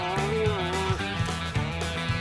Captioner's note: cow mooing